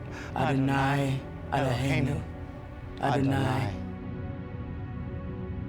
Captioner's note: Sam and Mirabeth speaking Hebrew